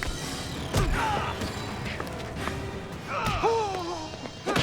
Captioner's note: John cries out; Nick groans